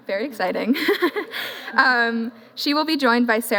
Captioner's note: chuckles